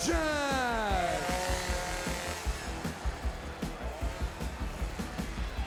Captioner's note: chainsaw revving